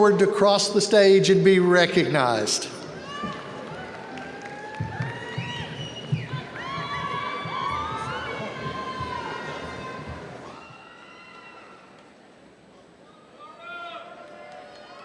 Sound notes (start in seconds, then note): 6.5 students yell indistinctly